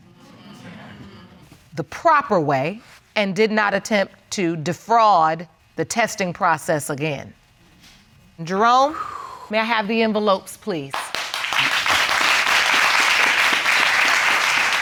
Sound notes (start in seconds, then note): 8.9 exhales; 10.9 audience applauding